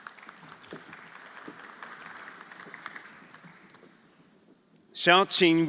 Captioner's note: everyone applauding